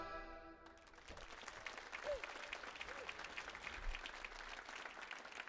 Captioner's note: audience applauds